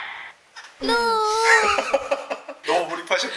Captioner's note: on the verge of tears